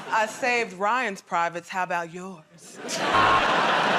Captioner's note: sultry voice; laughter and applause; buzzer